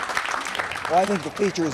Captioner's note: all applauding